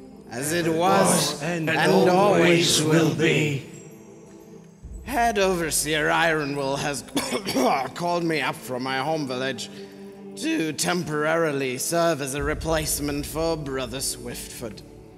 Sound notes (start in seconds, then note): 7.1 coughs